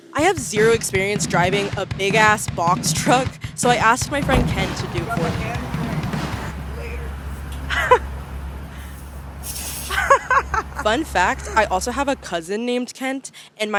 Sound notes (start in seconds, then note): 6.7 jazzy laughing